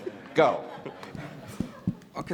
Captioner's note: laughter